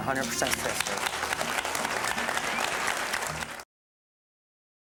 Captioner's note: crowd applause